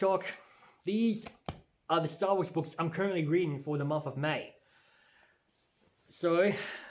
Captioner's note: tap tap